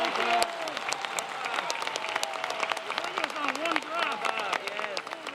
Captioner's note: applause